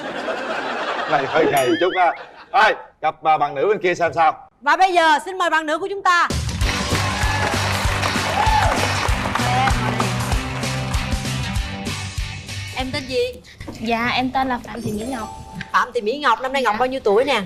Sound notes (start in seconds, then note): 9.2 applause